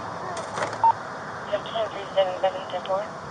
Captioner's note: radio chatter